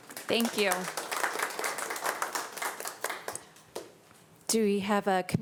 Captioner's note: audience applauding